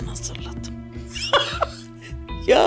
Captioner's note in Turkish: Gülme sesi